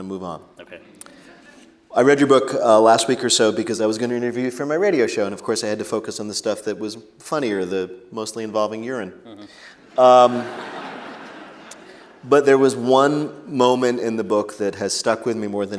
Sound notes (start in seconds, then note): 9.9 laughter